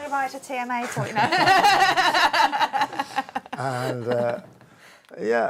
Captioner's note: laughter